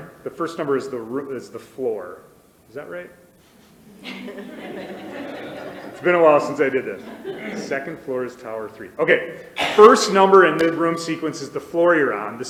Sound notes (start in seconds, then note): 3.7 crowd laughs